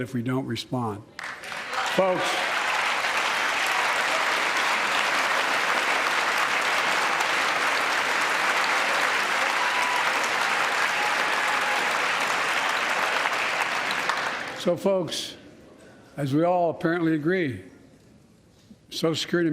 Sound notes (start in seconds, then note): 9.0 applause